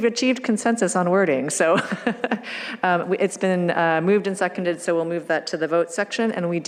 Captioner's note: laughs